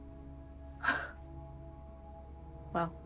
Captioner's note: laughs softly